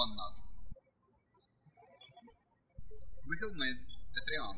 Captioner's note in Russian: птички щебечут